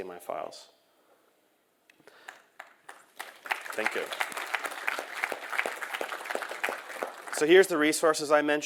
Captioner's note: applause